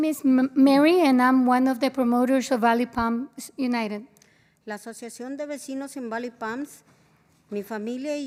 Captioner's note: spanish